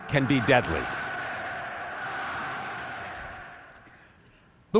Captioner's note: recording of crowd cheering